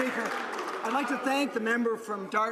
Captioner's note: some Applause